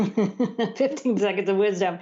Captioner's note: laughter